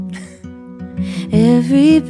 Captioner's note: gentle guitar music; chuckles